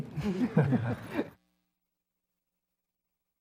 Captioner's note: laugh